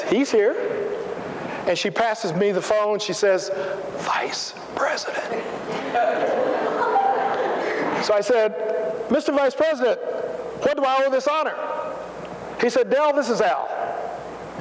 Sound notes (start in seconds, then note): 5.6 laughter